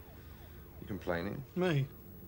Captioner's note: none